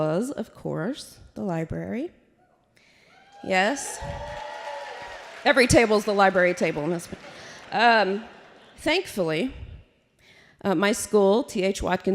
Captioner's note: applause